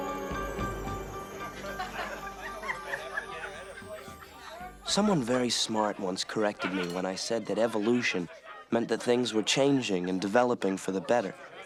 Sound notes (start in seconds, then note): 1.3 indistinct chatter